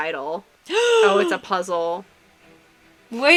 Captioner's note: delighted gasp